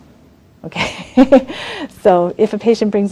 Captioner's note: laughs